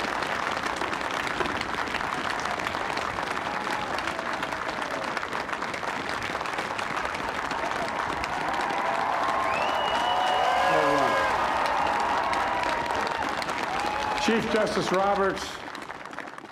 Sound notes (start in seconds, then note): 3.9 applause; 3.9 cheering